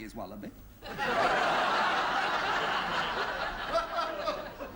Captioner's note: laughter